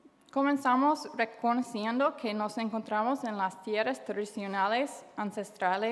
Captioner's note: speaking foreign language